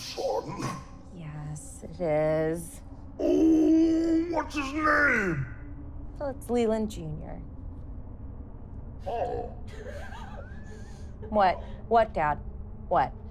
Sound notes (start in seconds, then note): 9.6 laughing